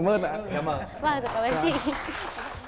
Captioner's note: applause